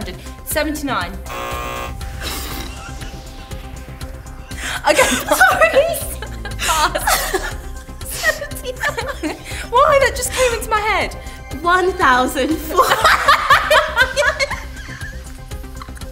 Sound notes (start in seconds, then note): 1.2 buzz; 2.6 giggles; 12.7 laughs loudly